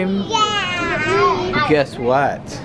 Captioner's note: kids agreeing